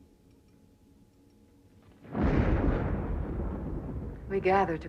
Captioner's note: guntur menggelegar